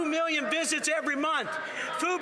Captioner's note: applause